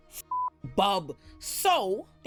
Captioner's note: beep